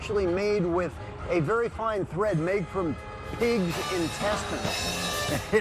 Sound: chuckles

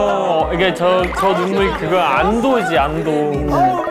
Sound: sob

